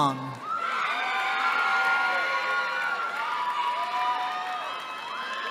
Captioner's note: cheering